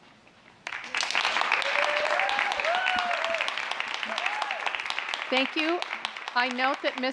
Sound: applause

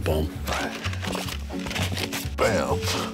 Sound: papers rustling

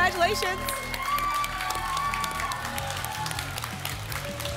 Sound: applause and cheering

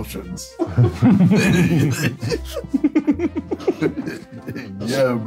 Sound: all laughing

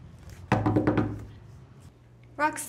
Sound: window knocking

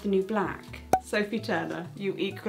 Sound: cork popping

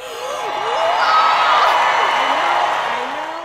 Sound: gasp

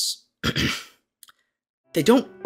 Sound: cough cough

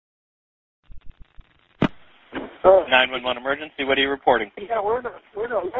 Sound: phone line crackling

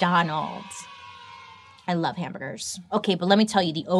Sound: children cheering

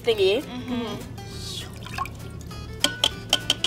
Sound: slurping; glass clanging

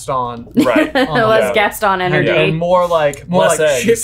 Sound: laughs

